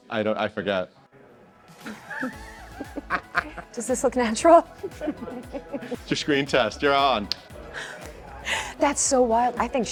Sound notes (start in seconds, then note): 1.9 laughs; 5.3 chuckles